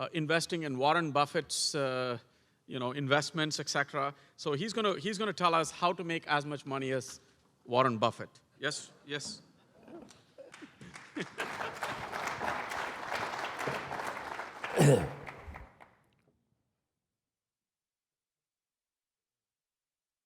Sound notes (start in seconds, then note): 10.4 applause; 11.7 cough; 11.7 laugh